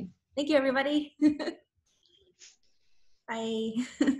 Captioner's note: chuckes